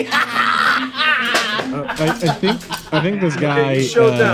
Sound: laughing

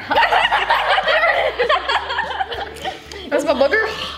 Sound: laughter

